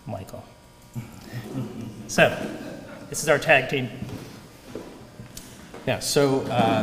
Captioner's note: laugh